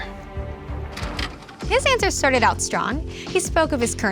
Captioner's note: videotape pauses